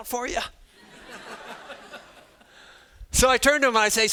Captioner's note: students laughing